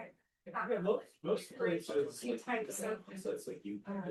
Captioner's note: background chatter